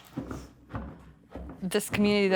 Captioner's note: thumping air sound